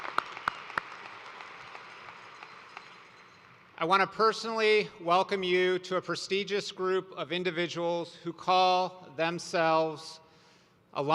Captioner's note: cheers and applause